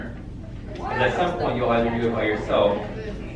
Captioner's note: students exclaim